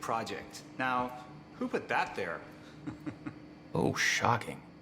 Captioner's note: laughs